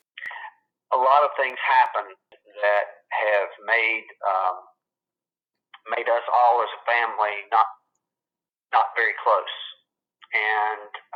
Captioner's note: on phone